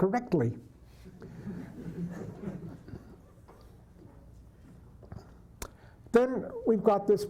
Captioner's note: laughter